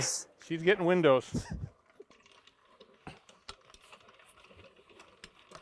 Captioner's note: chuckles